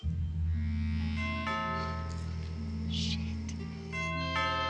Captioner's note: eerie music; door bell rings; door bell rings